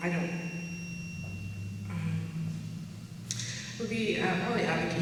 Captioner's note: microphone buzzing